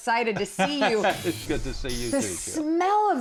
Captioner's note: chuckling